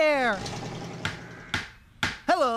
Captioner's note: hammer Pounding